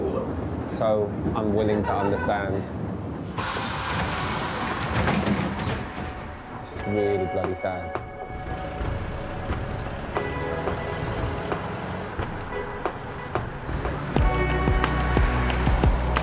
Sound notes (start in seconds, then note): 3.3 train doors hissing; 9.1 somber music